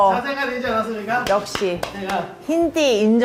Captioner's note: applause👏🏻